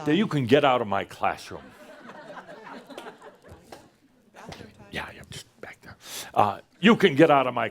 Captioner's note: Some chuckles as she gets up to leave, and Adamus whispers